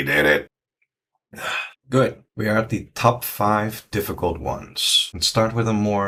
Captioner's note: exhale